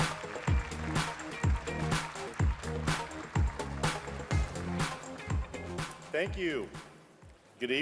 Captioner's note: cheering and applauding